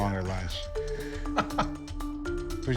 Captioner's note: laughs